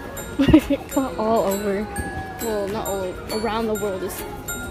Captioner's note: laughs